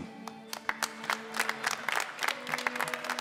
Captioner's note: applause